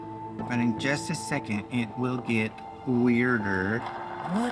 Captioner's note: fireworks popping in video